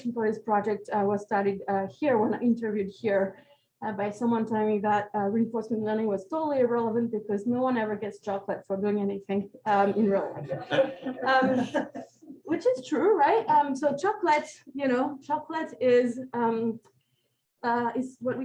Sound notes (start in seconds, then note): 10.4 laughter